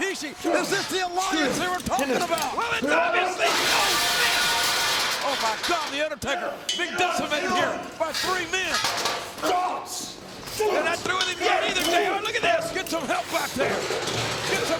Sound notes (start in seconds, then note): 9.7 feet thudding; 10.3 group grunting